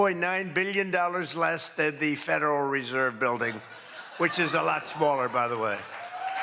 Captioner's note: applause